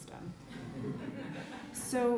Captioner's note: audience laughing